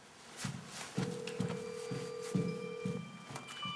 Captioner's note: cellphone ringing